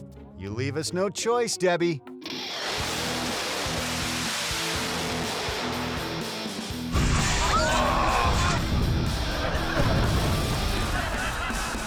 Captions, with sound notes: You leave us no choice, Debbie. (spectators shrieking)